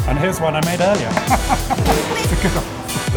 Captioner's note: laughter